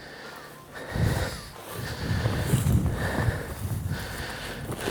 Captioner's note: breathing heavily